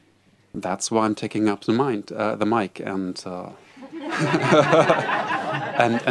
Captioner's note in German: Lachen